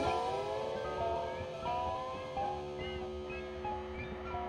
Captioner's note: none